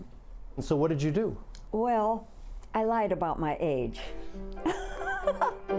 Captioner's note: upbeat piano music; laughing